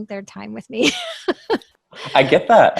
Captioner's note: laughs